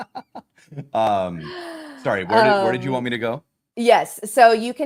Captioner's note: laughter